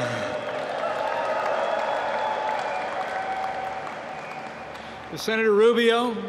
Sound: applause

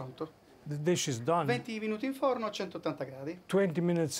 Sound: speaking Italian

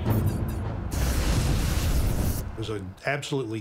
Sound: dramatic ominous instrumental music; flamethrower roaring

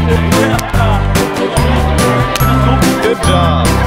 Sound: indistinct chatter

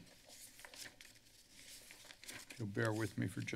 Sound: papers flipping

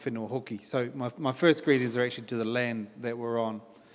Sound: in English

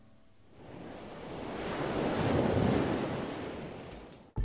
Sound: waves crashing

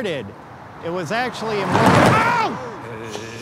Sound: thud

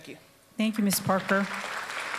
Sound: applause

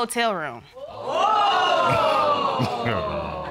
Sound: scoffs; audience exclaims

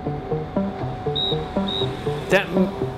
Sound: whistle blows

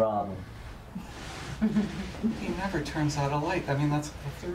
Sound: woman is laughing

